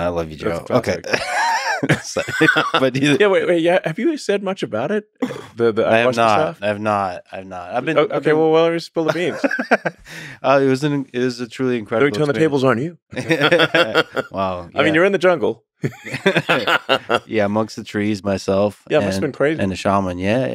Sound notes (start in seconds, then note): 0.0 both laughing; 1.1 laughing continues; 9.2 Lex laughing; 13.1 both laughing